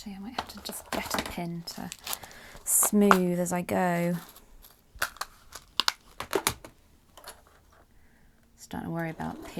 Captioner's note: rustling in pin pot